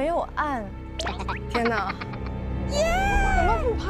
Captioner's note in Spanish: Risa secreta